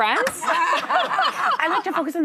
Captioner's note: laughing